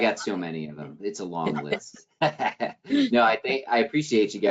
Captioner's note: chuckles